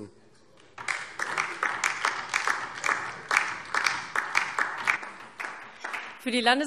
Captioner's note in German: Beifall DIE LINKE